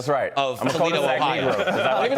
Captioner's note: laughter